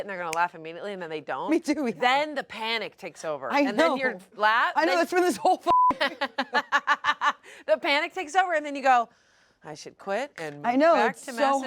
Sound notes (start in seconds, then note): 5.7 beep; 5.9 laughs